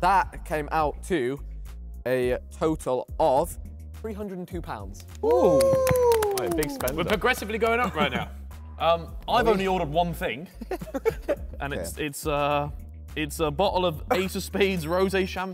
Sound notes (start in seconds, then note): 5.0 men clapping